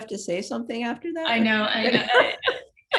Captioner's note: laughs